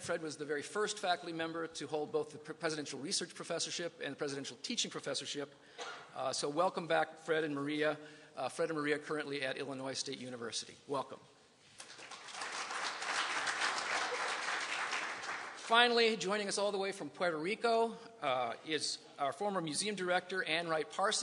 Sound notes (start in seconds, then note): 14.0 applause